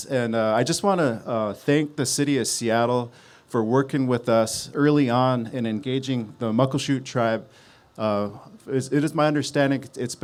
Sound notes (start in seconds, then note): none